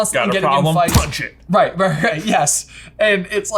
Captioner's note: punching Sound Effect